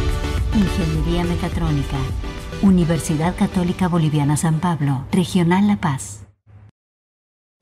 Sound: speaking spanish

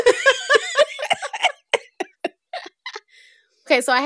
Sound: laughter

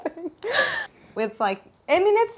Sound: laughter

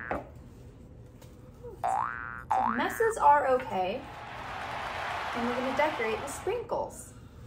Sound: cheering

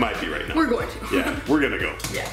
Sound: chuckles

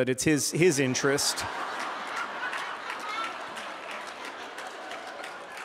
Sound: laughter

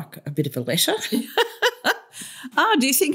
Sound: laughter

